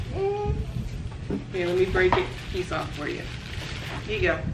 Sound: none

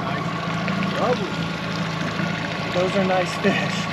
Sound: boat engine idling

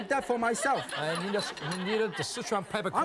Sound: laughing

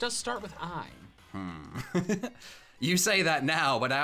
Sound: chuckles

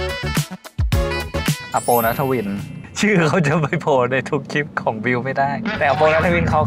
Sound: laugh

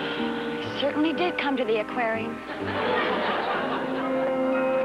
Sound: sighs

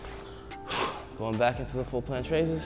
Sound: exhaling

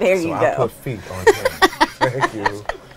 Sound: laughs

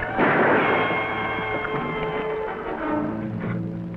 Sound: gun fires

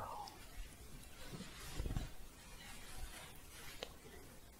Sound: shuffling

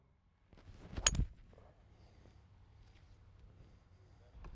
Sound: ping!

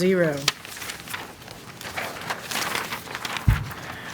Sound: paper rustling

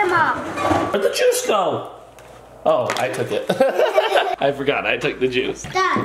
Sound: laughs

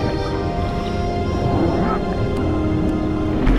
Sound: grunting

